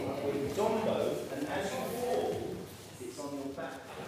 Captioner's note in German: Der Lehrer spricht auf Englisch